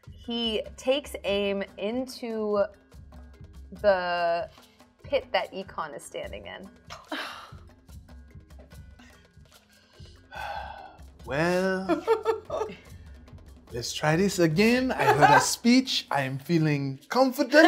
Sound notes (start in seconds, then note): 7.0 intense music; 10.2 sighs